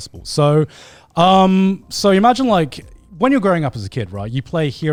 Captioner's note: none